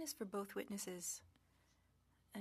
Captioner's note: speaking French